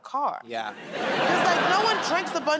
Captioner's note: laughter